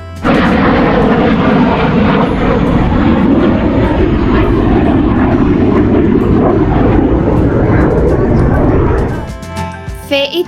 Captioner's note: sounds of military planes